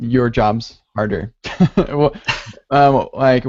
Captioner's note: laughter